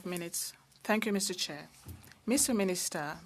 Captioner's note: speaking French